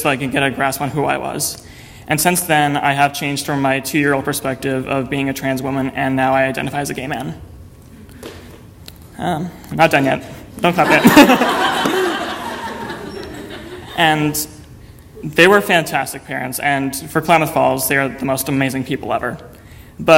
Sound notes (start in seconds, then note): 8.0 1 clap from audience; 10.8 audience laughter; 10.8 laugh